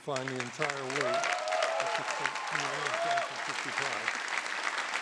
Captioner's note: audience applauding